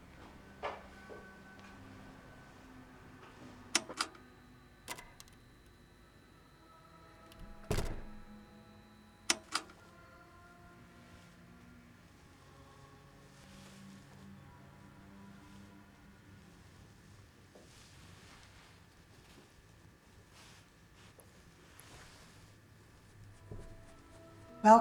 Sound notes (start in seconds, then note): 0.0 soft gloomy music; 4.8 button clicks; 7.3 object thumps; 9.3 button clicks; 11.1 soft gloomy music; 21.0 soft gloomy music continues